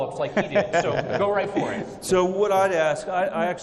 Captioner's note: laughing